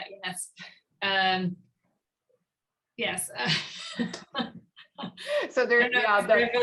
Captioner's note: laughing